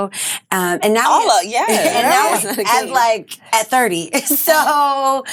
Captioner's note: laughs